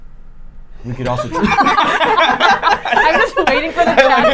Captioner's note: laughing